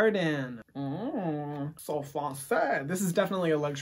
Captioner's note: speaking in foreign language